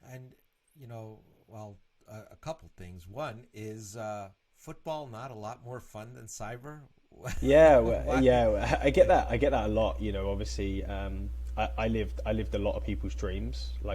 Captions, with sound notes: - And well, a couple of things, one is football not a lot more fun than cyber. (laughs) - Yeah, I get that a lot, obviously. I lived a lot of people's dreams.